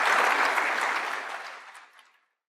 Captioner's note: applause